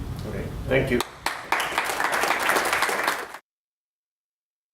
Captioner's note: applause